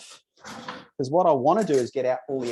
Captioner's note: drawer whooshing